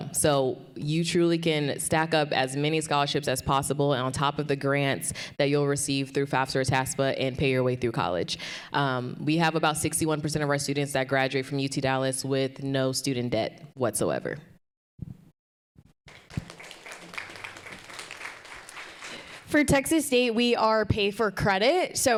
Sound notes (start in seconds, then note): 16.0 audience applauding